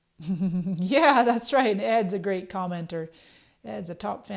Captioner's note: chuckles